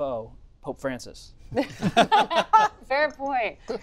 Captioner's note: laughter